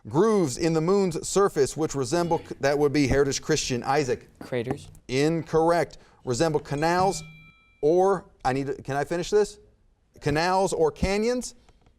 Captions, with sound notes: Grooves in the Moon's surface which resemble-- (buzzer beeps) That would be Heritage Christian, Isaac. - Craters. - Incorrect. Resemble canals or-- (timer dings) Can I finish this? Canals or canyons?